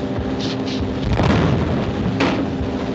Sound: explosion

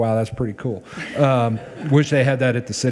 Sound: people chuckle

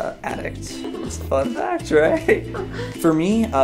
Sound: laughs

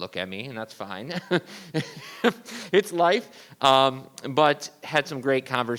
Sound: laughs

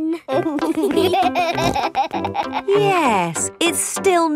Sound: laughing

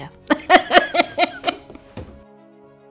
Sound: laughs

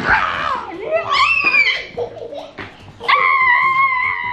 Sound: children shout

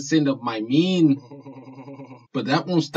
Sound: creepy goon laughs

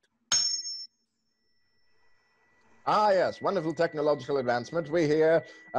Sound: tuning fork dings

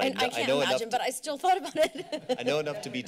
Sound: laughter

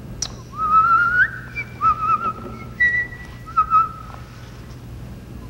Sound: whistling

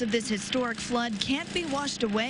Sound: nats of pressure washer

